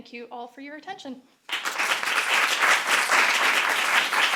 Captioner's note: applause